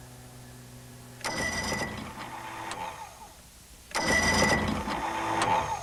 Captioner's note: boat motor turning